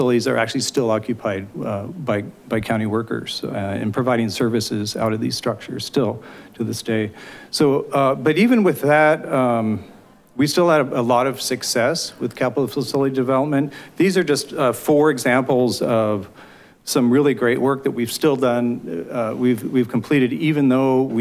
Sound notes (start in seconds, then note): none